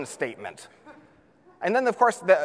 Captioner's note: audience laughs